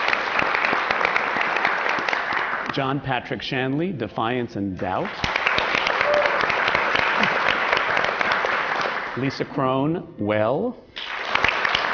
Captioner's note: applause